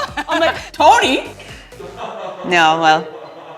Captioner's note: laughs